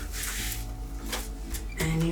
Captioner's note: stencil swishing